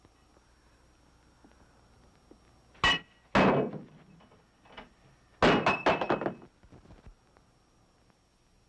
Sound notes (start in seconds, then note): 3.4 thump; 4.2 crash